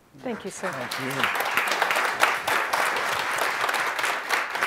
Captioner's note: audience applauds